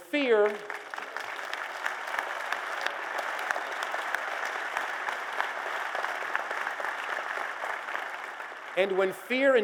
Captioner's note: applause